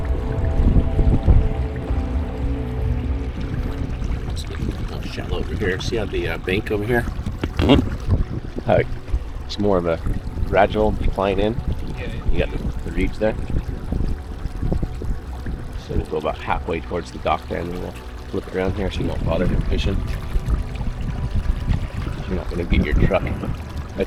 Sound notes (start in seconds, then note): 0.1 suspenseful music continues; 20.2 suspenseful music continues; 20.2 water lapping gently